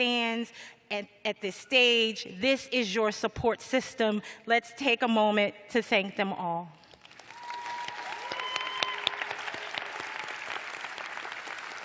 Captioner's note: cheers and applause